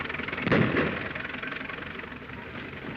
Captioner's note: gunshot